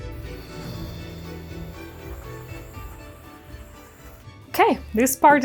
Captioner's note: blower hissing